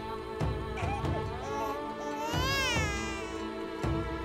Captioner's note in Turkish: Bebek ağlama sesi